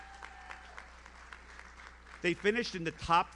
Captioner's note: audience cheers; audience applauds